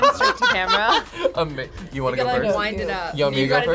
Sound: laughs

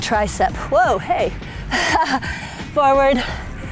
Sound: laughs

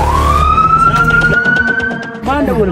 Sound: police car siren

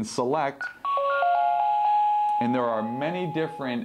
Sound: chime

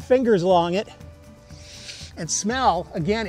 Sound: sniffs

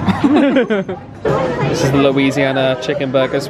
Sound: laughter

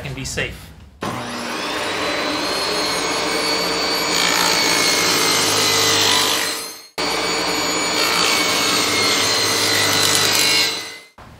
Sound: saw running

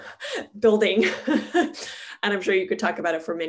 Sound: laughing

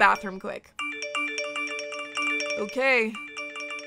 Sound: phone notifications

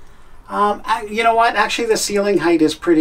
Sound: none

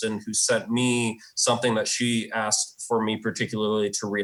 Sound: none

